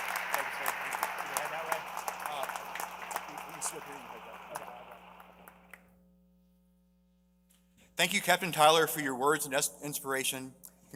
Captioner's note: applause